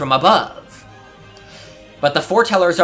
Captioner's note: inhale